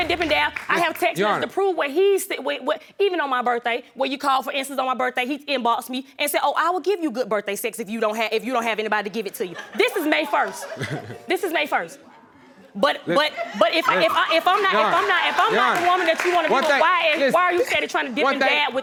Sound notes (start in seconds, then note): 10.4 chuckles